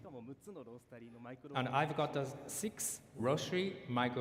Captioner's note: speaking japanese